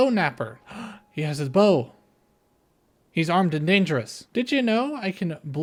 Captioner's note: gasp